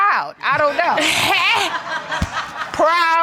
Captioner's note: laughs